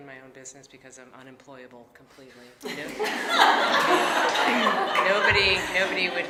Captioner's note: audience laughing